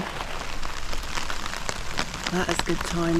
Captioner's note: rain